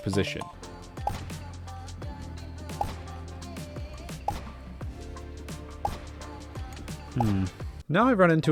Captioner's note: gunshots